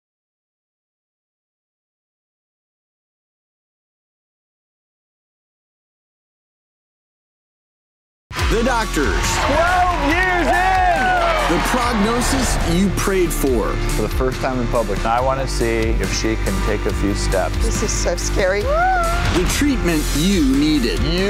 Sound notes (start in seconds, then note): 8.3 audience cheering; 18.8 screams